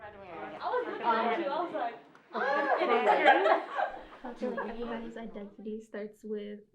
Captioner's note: students talking amongst themselves